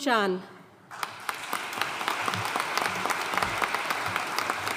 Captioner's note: audience applauding